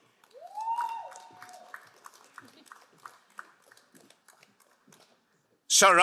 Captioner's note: crowd cheering and applauding